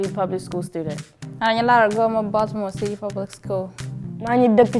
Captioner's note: speaking in Anuak; speaking in Wolof